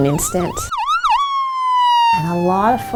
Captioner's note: ambulance wailing